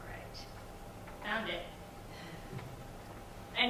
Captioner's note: chuckles